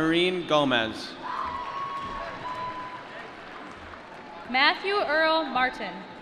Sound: applause

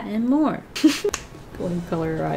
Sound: laughs

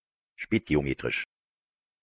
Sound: fast Pronunciation

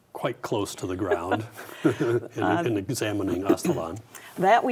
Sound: both laugh

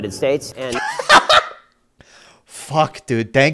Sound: laughs

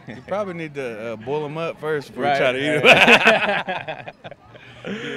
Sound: laughing

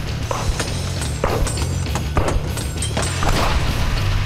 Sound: bullets clattering

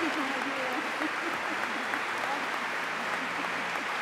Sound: applause

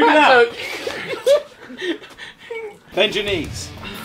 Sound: group laughing

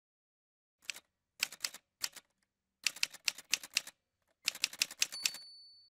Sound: typewriter sounds

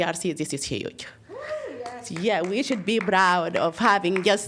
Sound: applause

